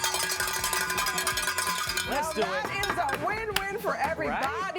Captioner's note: cheering